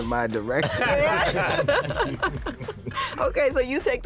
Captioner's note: laughter